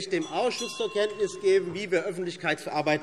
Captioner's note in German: Fortgesetzt Zurufe - Glockenzeichen